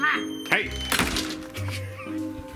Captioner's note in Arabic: ضحك